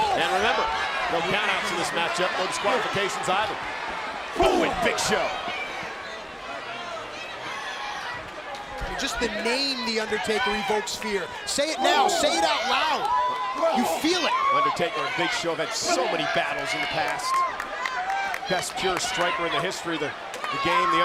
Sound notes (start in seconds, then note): 5.8 applause